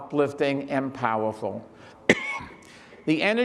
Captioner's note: Michael coughs